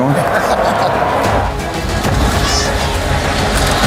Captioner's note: laughter